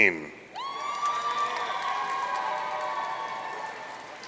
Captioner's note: audience cheering